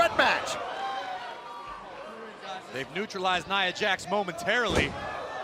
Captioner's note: crowd cheering